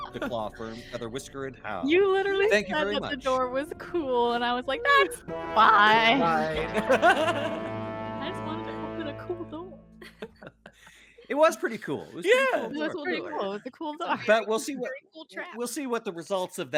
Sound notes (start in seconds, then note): 0.0 Violette laughs; 5.9 laughs; 10.0 Cornette laughs; 14.1 chuckles